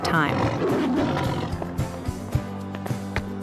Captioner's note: growling